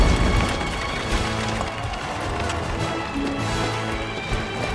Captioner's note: cheers and applause